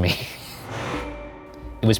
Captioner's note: air whooshing